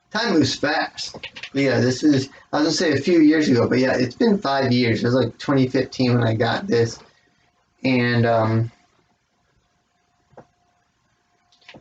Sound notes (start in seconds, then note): 1.1 clacking of the chest expander's ropes